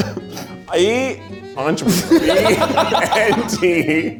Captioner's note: group laughs